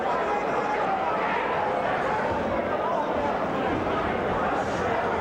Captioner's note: ambient chatter